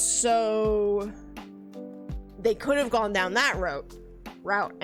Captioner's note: none